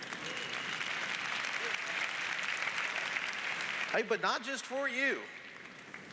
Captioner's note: applause